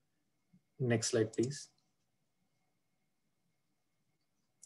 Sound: clicking

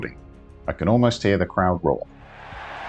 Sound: crowd noise

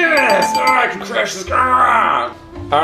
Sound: bell dinging

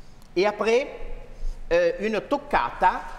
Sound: speaking french

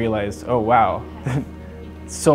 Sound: laughs

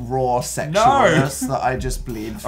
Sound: laughing

